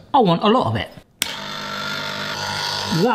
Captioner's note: ice cream maker whirring